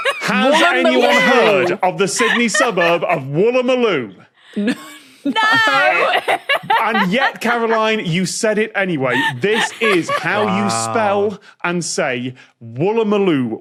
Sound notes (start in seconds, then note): 4.5 wheezes; 5.3 laughs